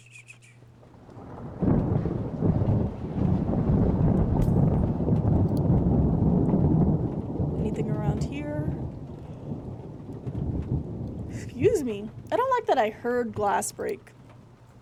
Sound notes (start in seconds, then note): 4.3 glass Shatters; 4.3 thunder Continues; 9.1 thunder Continues